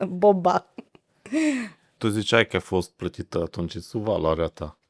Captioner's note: laughter